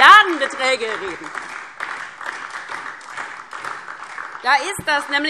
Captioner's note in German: Beifall DIE LINKE und SPD